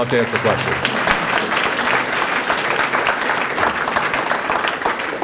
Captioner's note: applause